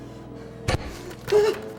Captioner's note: wham!